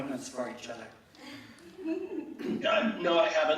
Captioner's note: laughing